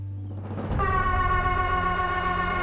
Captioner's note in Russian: сигнал тревоги